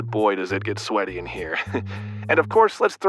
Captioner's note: chuckles